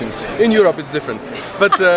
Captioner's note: laughs